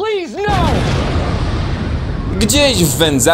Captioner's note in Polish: boom!